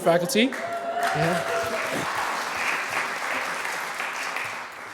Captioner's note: applause